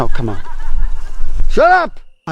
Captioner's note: background laughter